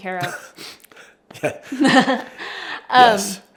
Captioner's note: both chuckle